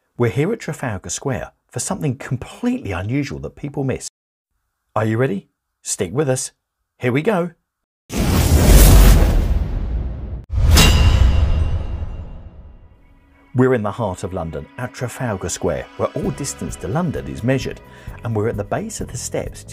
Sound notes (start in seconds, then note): 8.2 dramatic music; 8.2 logo clanging